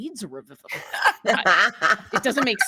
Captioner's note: cast laughing